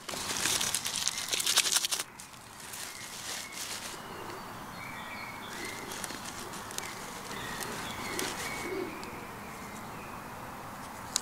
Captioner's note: dry cracking and rustling sounds